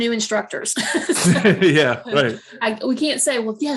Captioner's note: laughing